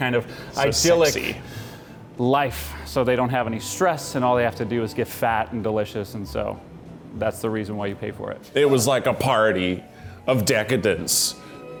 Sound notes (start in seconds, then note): none